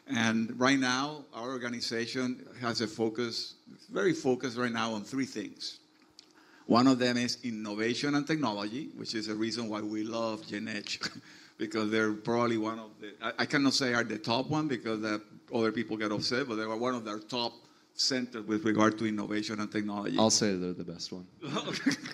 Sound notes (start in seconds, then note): 11.1 laughs; 21.4 panelists laugh